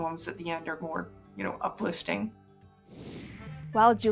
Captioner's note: screen whooshing